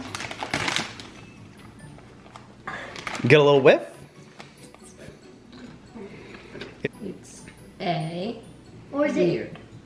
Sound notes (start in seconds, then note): 0.0 crinkling bag; 2.2 small gasp